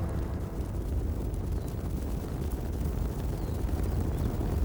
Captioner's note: thundering hooves